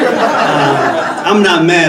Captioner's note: audience laughing